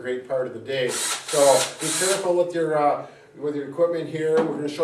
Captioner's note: drill buzzing